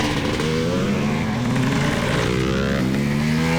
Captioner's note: engine revving